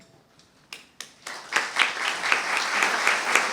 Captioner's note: applause